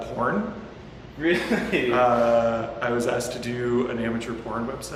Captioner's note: laughs